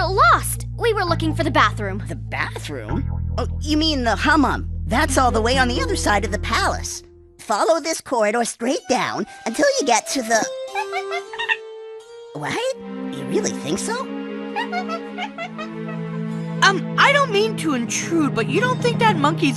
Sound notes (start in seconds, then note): 10.7 monkey noises; 14.5 monkey noises